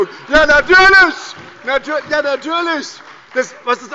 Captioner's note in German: Lachen und Beifall bei der SPD